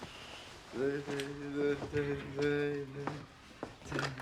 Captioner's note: continues humming